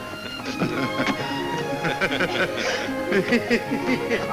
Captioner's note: men chuckle